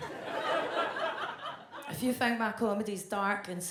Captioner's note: audience laughs